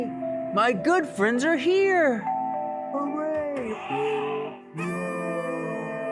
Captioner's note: doorbell ringing